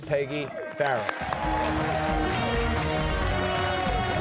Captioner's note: cheers and applause